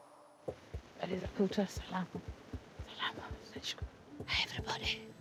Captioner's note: Madam President whispering